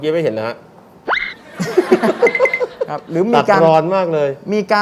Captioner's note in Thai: หัวเราะ